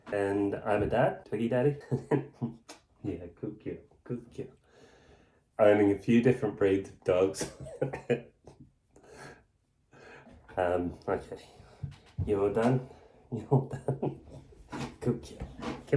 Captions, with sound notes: and I am her Dad. Twiggydaddy (Laughing) Good girl. Good girl Owning a few different breads of dogs (Laughing) Um. Okay.. You all done? (Laughing)